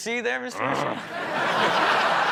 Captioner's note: grunts; audience laughs